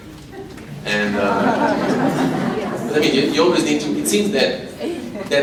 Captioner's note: audience laughs